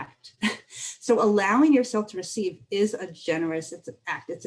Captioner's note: laughter